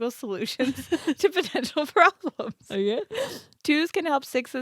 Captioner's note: giggles